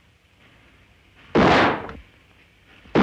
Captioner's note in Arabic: طلق ناري